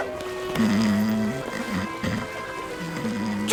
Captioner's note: Finbarr snoring